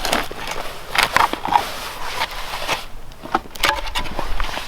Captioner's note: shovel scraping